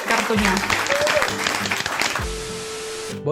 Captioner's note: applause